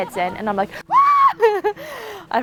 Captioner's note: screams